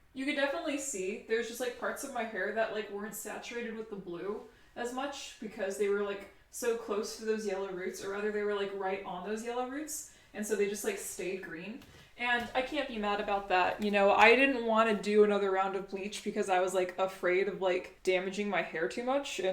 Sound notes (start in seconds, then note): none